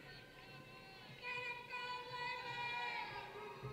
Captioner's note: cheering